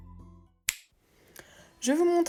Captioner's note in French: Bruit de claquement de doigts